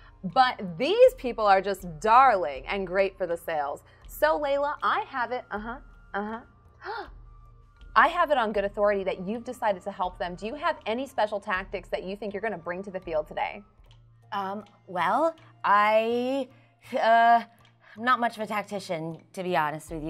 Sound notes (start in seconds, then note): 7.2 gasps